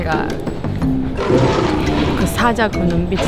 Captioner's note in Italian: Ringhiando